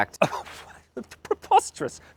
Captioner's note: laughs